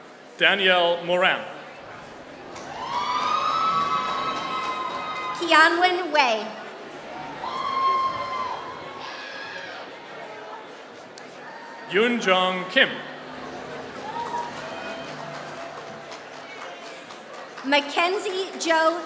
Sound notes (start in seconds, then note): 2.4 applause